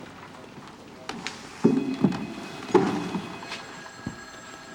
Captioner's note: phone ringing